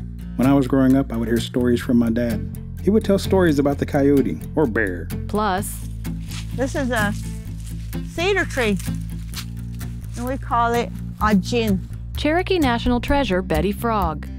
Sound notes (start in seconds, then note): 5.8 leaves rustling underfoot